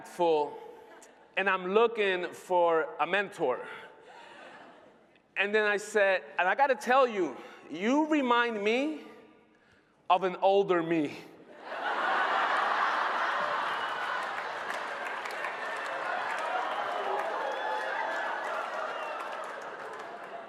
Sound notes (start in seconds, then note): 14.4 laughter